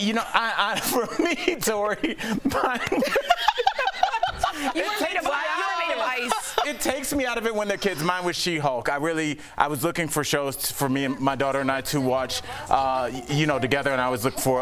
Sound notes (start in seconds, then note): 3.6 laughter